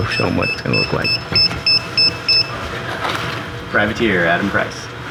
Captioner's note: beeping